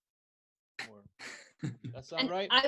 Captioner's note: laughs